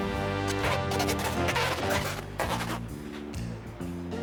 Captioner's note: squeaking